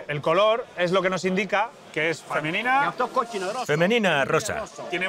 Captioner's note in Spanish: habla en griego